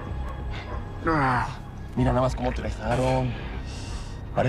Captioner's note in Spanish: Quejidos